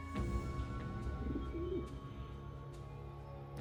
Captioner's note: dove coos